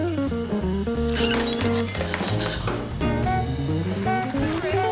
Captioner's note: glass shatters; crowd applauding; crowd cheering